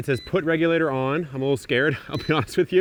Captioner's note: appliance beeps